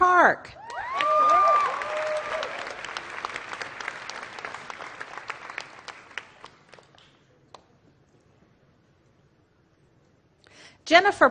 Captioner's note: applause